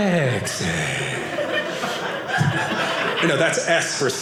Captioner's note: audience laughing